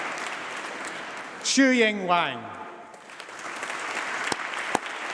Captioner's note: applause